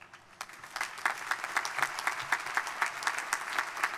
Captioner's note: crowd applauding